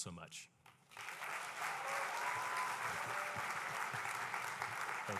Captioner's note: applause and cheering